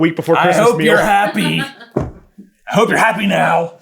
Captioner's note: laughing